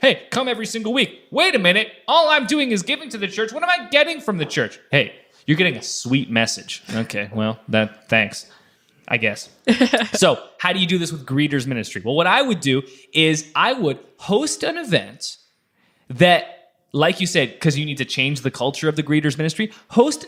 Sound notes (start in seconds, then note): 7.0 giggling; 9.7 laughing